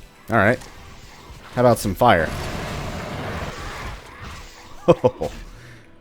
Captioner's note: fwoooosh; joyous chuckling